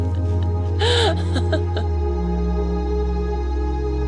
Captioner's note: laughing